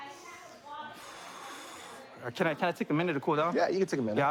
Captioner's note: exhales